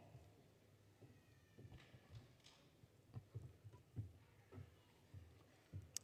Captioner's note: footsteps